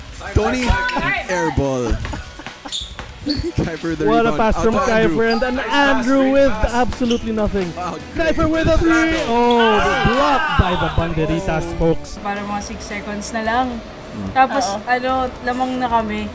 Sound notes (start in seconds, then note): 1.7 laughing